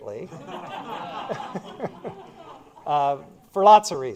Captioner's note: laughter